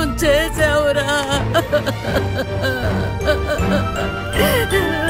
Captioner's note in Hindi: रोना